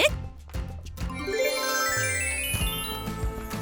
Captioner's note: magical sounds